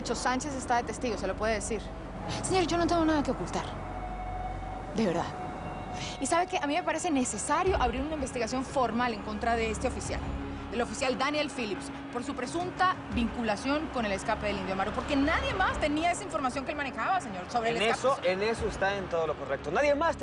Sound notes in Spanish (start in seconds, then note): none